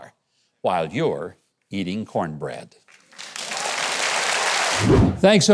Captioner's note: audience applauding